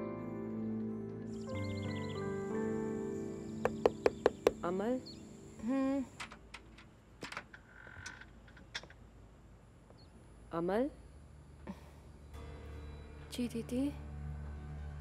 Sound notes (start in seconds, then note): 1.3 Birds chirping; 3.6 Knocking at the door; 7.1 Door opens